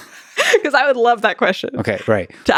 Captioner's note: laughs